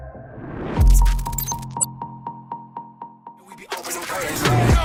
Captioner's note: beep echoes